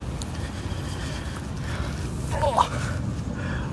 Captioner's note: wind blowing